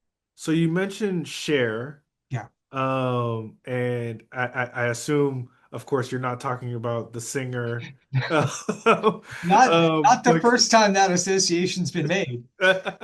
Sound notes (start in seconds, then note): 8.1 laugh